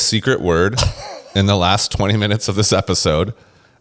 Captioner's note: laughs